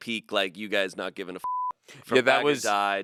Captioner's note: beep